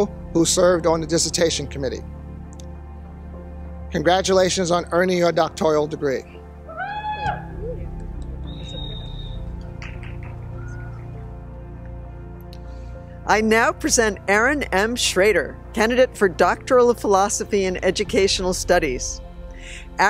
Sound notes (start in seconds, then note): 8.4 whistle